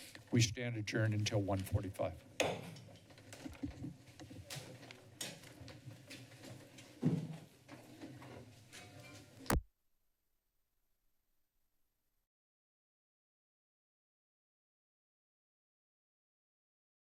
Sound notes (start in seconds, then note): 2.3 soft thud; 3.4 shuffling; 9.5 silence